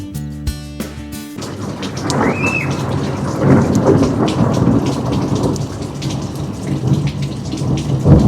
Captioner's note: A long, loud rumble of thunder. A child squeals at the noise